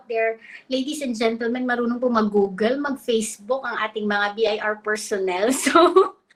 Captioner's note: speaks in Filipino